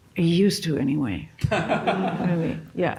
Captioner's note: laughs